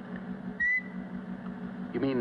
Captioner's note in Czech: Pískat